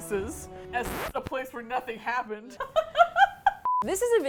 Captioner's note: laughter